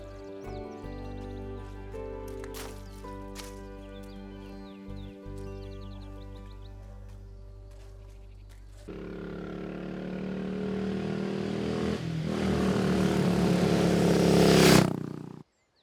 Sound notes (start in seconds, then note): 9.4 engine rumbling